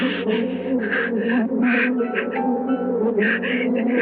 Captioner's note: bees buzzing